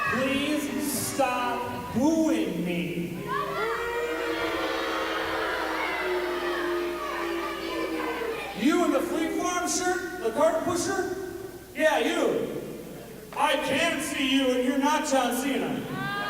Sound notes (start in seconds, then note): 3.2 crowd boos; 15.9 crowd laughs and yells